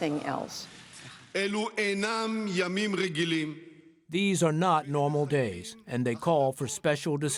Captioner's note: through translator